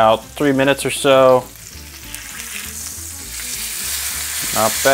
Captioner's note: chops sizzling continues